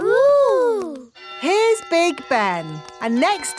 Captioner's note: clock chimes